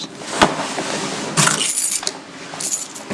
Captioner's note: keys jingling